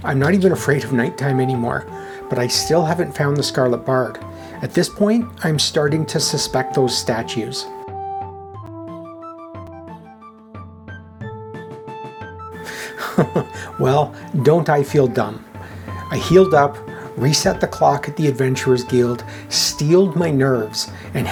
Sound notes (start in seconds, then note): 12.6 chuckles